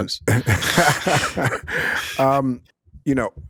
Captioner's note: laughing